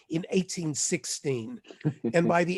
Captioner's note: laughter